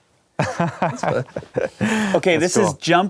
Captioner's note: laughing